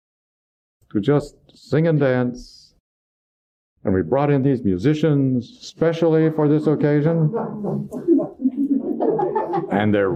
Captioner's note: laughter